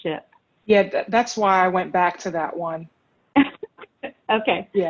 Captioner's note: laughs